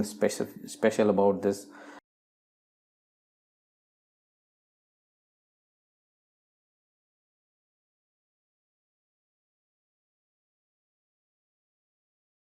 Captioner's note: silence